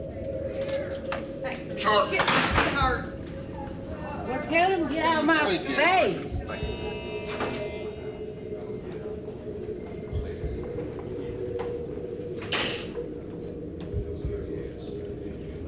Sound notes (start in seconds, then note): 1.7 clatter; 6.4 door buzzes